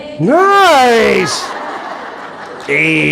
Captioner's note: audience laughing